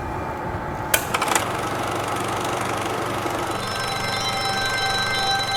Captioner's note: projector whirring; buttons click; high pitched frequency; projector rattling